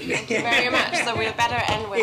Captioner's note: laughter